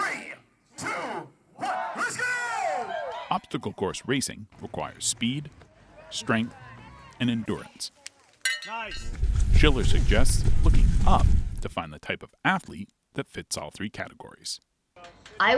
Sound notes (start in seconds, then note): 8.4 bell rings